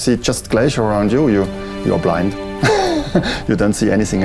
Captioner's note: laughs